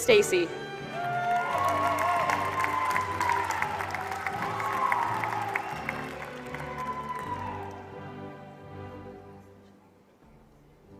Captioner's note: applause